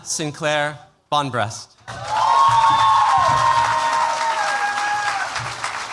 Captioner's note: cheers, applause